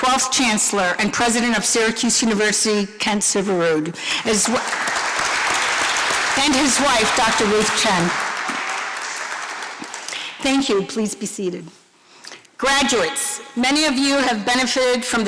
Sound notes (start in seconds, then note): 4.1 applause